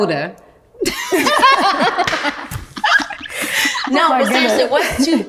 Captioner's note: all laughing loudly